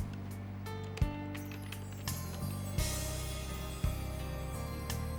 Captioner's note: keyboard clacking